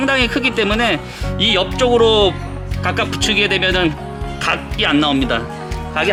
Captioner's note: fire